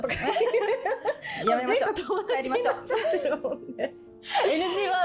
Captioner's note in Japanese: 笑い